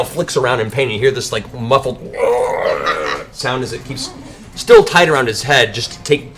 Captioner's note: screeching